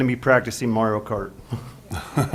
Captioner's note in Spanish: risas